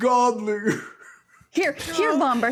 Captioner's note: sobbing